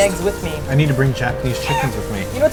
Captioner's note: chicken sound